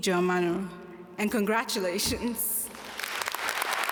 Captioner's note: foreign language; audience applaud